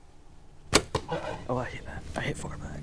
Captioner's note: bow shoots; bear growls